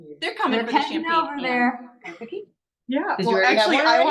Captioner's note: overlapping chatter